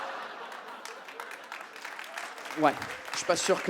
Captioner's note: audience starts clapping